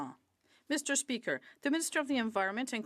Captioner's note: speaking French